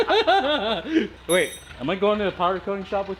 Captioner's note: laughing